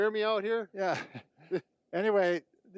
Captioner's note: chuckles